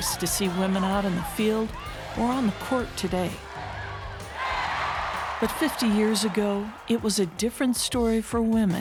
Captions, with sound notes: It's commonplace to see women out in the field or on the court today, (crowd cheering) but 50 years ago it was a different story